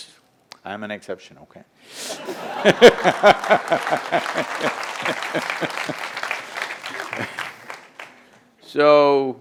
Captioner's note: laughter/Applause